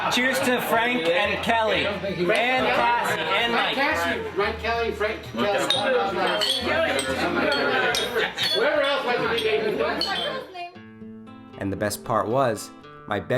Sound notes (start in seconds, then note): 5.3 glasses clinking